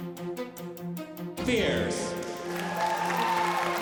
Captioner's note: cheering